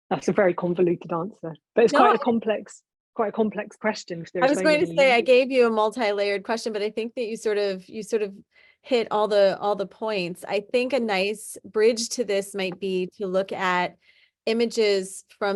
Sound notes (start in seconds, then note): 1.8 chuckling